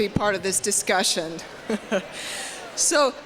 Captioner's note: polite laughter